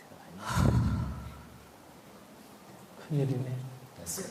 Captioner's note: questioner Sigh